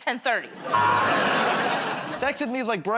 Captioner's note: buzzer